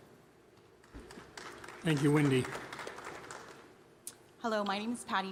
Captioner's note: applause